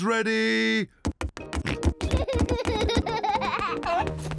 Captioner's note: oinks; oinks and giggles